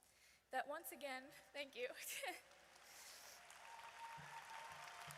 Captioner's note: audience applauds